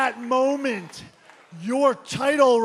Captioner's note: crowd response